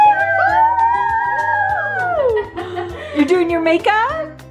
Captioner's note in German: lacht